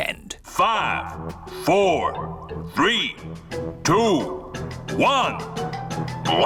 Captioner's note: on speakers